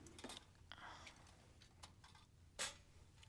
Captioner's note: whispering